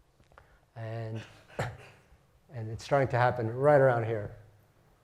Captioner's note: cough